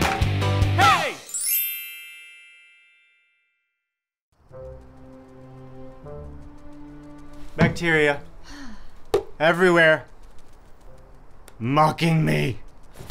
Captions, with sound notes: (Tink bells) (dramatic orchestral music) - Bacteria-- (Wendy sighs) everywhere, mocking me.